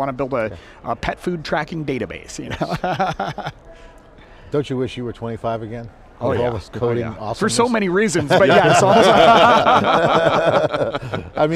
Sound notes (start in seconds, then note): 2.5 laughs; 8.2 everybody laughing